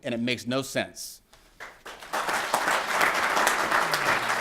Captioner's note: applause